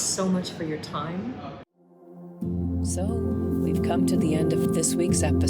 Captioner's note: voiceover